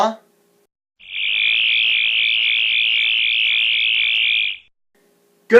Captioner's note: sonic screwdriver buzzing